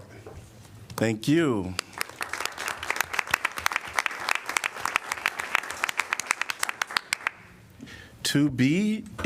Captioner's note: applause